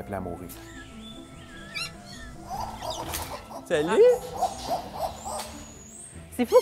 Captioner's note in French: pépiements